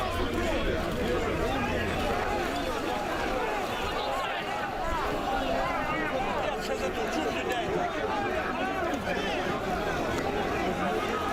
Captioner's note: crowd noise